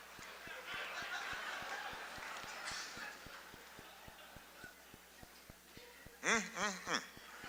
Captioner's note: laughter; laughter, applause